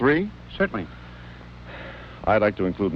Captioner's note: Robert sighs